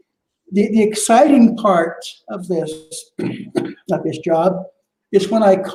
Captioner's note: coughs